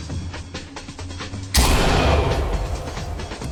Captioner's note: flashbang explodes